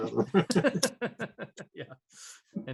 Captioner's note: laughs